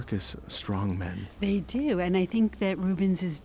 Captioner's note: voiceover